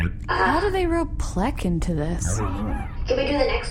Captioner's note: quietly